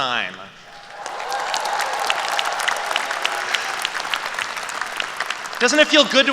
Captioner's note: applause